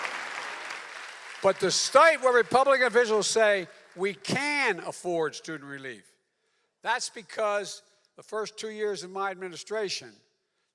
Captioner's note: applause